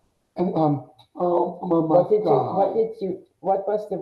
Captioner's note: mumbles excitedly